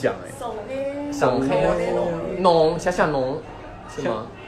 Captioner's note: in Shanghainese